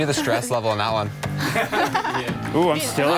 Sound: contestants laughing

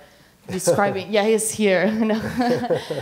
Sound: laughing

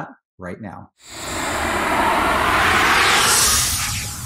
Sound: swoosh

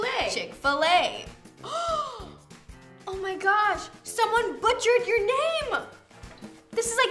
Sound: gasps

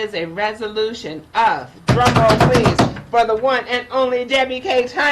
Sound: drums desk

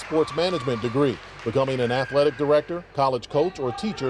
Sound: cheers and applause

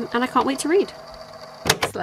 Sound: tape recorder clicks off

